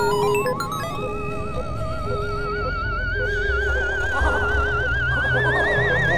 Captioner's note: chaotic 8-bit sounds; scary sounds